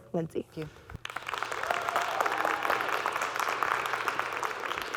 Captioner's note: audience clapping